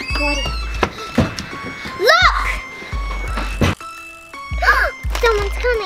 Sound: panting; gasps

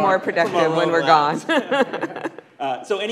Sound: laughing

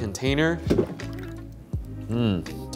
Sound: eggs splashing

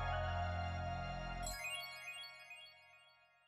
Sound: tinkling chimes

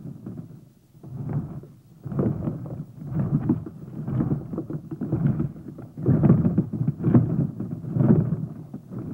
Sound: rumbling

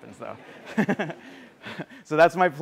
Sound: laughter

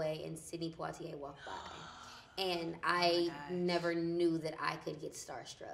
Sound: gasps

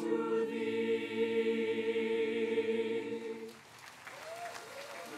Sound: applause

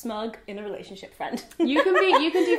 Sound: laughing

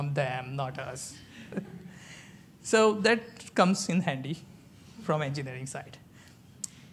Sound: laughs

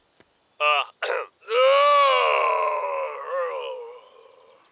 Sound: Sarge sighs

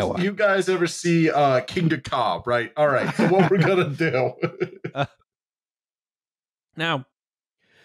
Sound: laughter

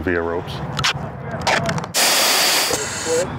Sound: tape scratches; air hisses

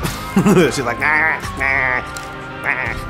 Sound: laughs; squawking sounds

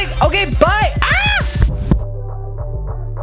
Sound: shrieks

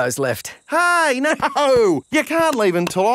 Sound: laughing

